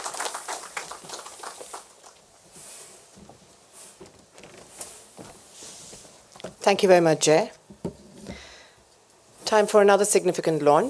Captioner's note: applause